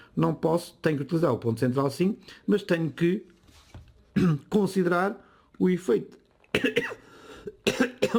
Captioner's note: cough